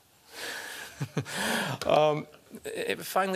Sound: laughter

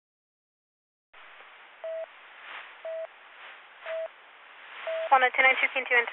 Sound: busy Tone

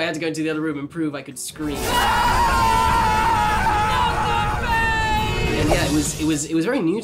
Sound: screams

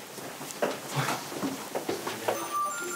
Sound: along with light footsteps

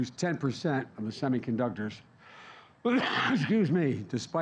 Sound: coughs

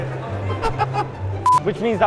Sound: laughs

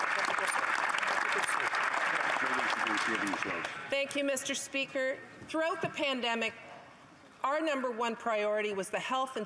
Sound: applause

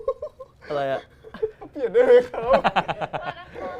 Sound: laughs

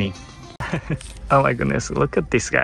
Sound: chuckles

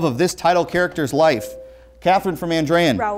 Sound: beeping

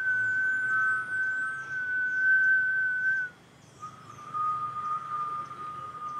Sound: whistling continues

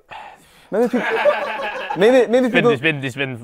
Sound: people laughing

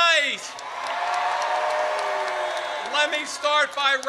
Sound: audience cheers

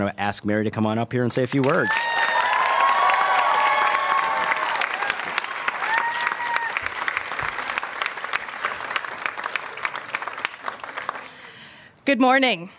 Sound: applause

